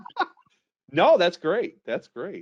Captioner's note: laughs